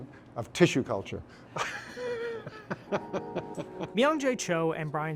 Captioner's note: laughing